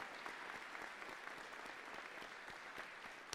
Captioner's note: cheers and applause